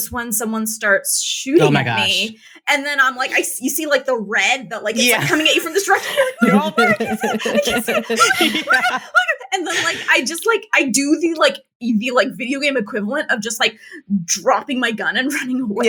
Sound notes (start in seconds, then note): 9.7 hyperventilates